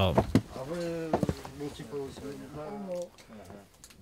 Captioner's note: voices in the background